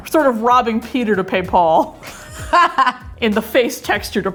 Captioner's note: laughing